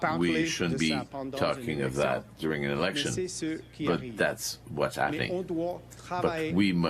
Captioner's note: speaking French